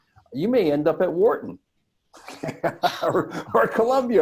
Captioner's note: laughs